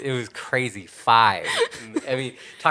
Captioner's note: laughing